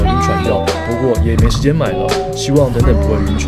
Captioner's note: laughs